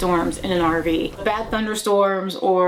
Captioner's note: heavy rain falling